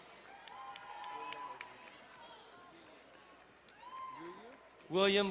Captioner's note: crowd cheering and applauding